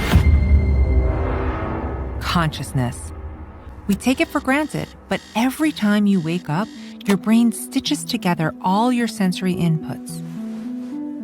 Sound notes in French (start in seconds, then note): 3.8 l'alarme bourdonne; 7.1 le reveil s'arrête